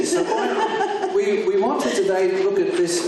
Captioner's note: laughs